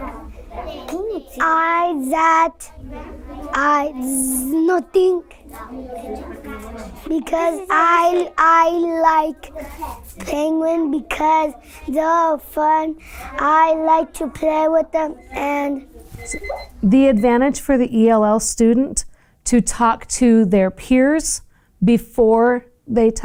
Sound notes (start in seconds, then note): 16.2 timer chime